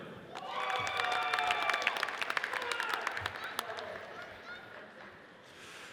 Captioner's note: audience cheers and applauds